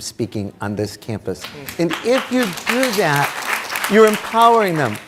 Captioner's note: audience clapping